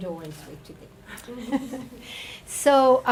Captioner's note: group laughing